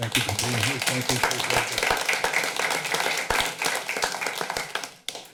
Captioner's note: applause